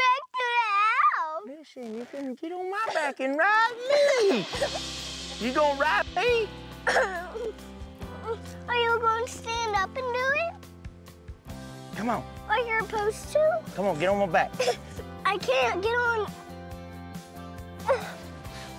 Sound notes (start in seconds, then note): 8.1 crying stops